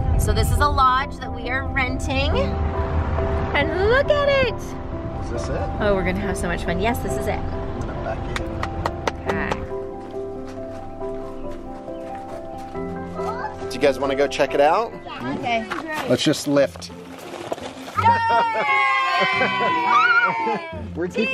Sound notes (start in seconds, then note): 8.3 person clapping; 10.3 whimsical music; 18.0 children applauding